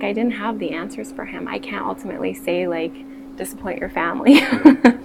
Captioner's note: laughs